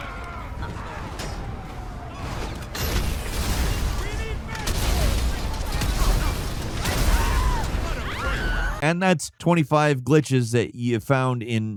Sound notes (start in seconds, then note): 3.7 explosions blasting